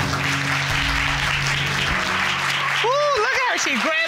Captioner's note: applause